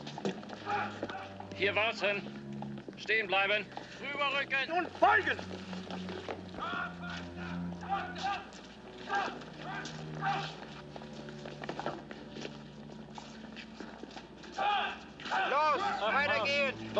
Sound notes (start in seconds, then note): 7.0 yelling; 9.0 soldiers shouting commands